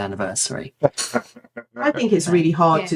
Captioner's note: laughing